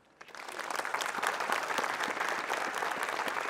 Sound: applause

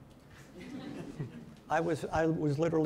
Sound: audience laughing

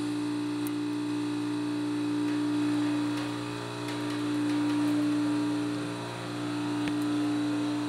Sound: buzzing; mechanical whirring

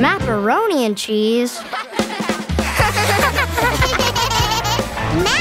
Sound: laughing

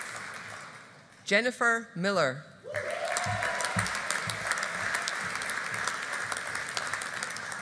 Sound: audience applauding

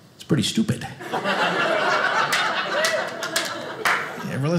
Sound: audience laughing

